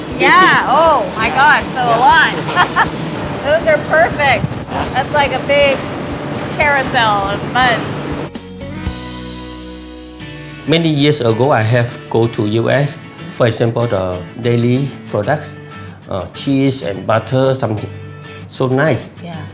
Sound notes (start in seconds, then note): 0.1 laughing; 8.0 upbeat music